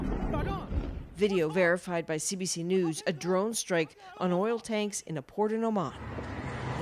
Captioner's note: speaking alternate language